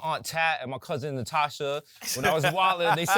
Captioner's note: laughs